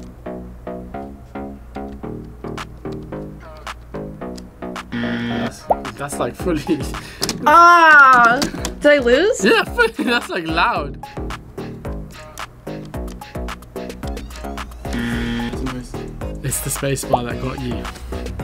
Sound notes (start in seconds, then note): 4.9 buzzer; 8.8 laughs; 14.9 buzzer